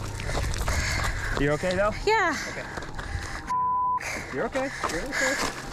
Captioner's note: beep